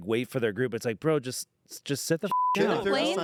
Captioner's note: beep